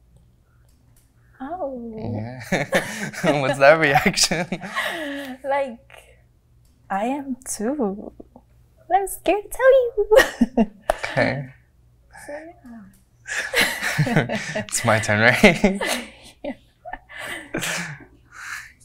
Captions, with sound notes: - Oh. - Yeah. (both nervously laugh) - What's that reaction? - Like, I am too. But I was scared to tell you. (nervously chuckles) - Okay. - So, yeah. (both nervously laugh) It's my turn, right? - Yeah.